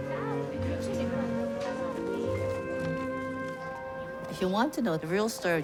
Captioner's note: indistinct chattering